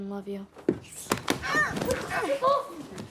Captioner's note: groaning